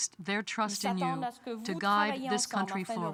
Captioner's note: speaking french